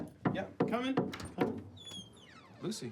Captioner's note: door knocking